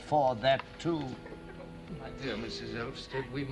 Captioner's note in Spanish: Sobs